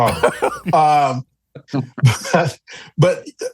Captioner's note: laughs